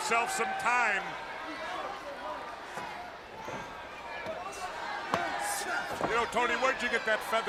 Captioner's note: crowd chatter